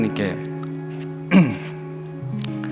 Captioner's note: clears throat